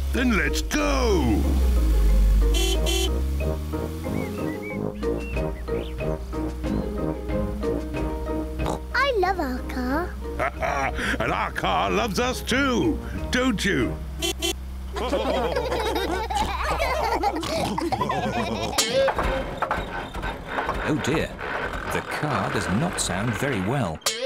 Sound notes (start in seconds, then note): 2.2 horn honks; 8.6 oinks; 10.3 laughs; 13.1 horn honks; 14.9 all laughing; 18.7 car clunks